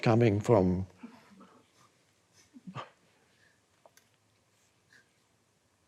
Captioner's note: audience chuckling